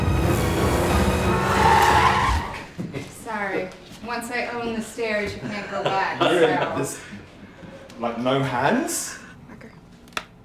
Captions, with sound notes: (car horn) - Sorry, once I own the stairs, you can't go back. - Like, no hands?